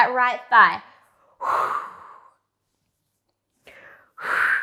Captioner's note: breathing sharply